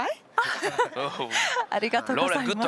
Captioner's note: is laughing